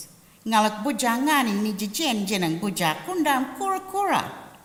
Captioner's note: language spoken